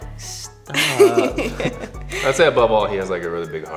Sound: Kelianne giggles

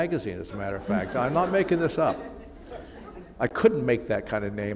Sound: laughter

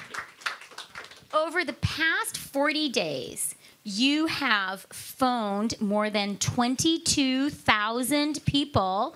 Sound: cheering and Applause

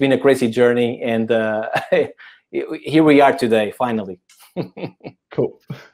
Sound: chuckles

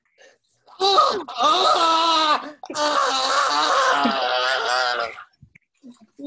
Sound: agonized screaming

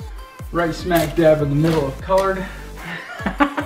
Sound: laughs

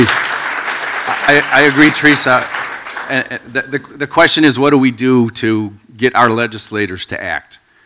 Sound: applause

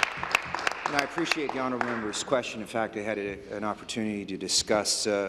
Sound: applause

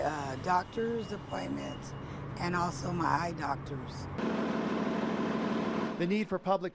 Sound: bus sound

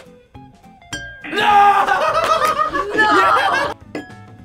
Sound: glasses chiming; laughs; glasses chiming

